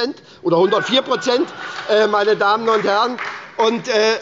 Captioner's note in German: Heiterkeit und Beifall bei Abgeordneten der SPD